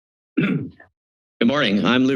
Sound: clears throat

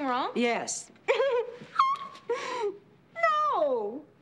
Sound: chuckles

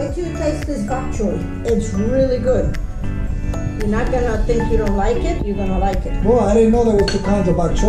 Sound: chattering

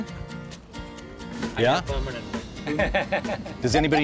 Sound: laughs

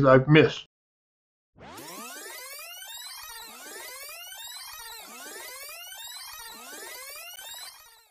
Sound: sound of video tape fast forwarding

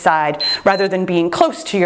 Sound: timer beeps

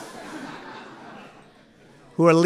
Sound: laughter

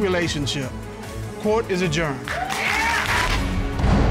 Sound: audience cheering; dramatic music playing

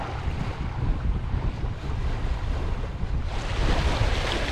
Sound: water lapping

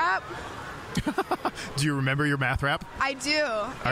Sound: laughing

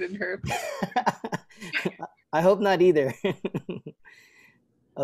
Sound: laughter

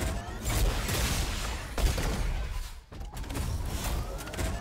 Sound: boom

